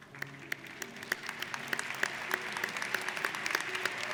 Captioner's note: applauding